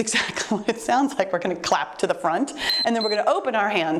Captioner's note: timer beeps